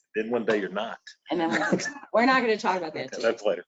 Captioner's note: laughs